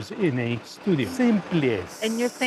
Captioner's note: in Portuguese